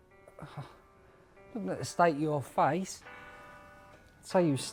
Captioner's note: chuckles